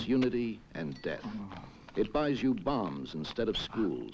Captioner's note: men moaning